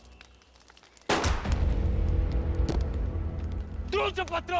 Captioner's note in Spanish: Disparos